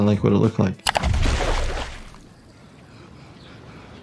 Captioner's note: loud splash